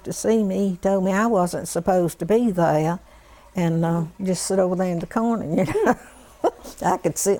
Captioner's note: laughter